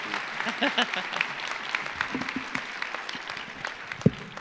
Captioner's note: chuckles